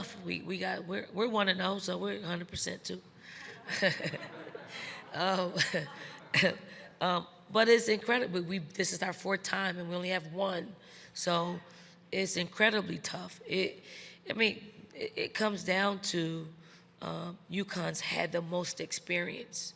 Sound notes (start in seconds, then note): 3.4 Dawn laughing; 3.4 crowd laughing; 3.4 chuckles